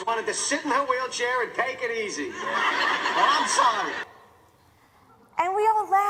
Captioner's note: laugher